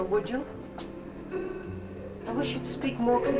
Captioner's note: faint muffled chatter nearby